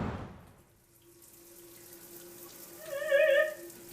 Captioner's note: water running; vocalizing